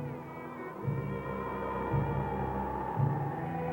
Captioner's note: wind howling